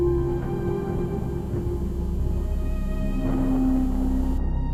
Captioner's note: thunder cracking